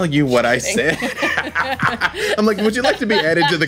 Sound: laughing

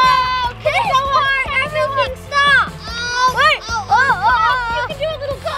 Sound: kids talking over each other

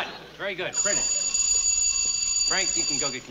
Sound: bell rings

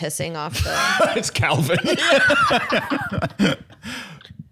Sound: both laughing

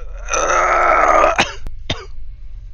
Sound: cough

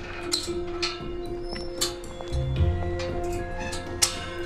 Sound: gate screeches

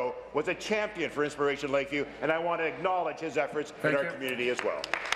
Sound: applause

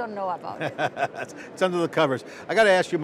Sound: laughing

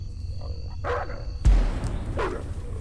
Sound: dog bark; dog barking, chasing

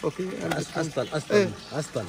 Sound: Arabic

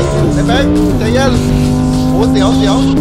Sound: engine rumbling continues

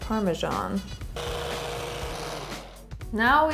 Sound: blender whirring

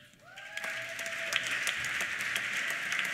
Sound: cheers; applause

